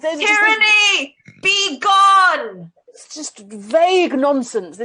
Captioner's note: shouts